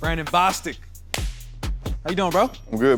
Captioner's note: clap